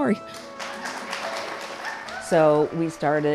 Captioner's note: cheers and applause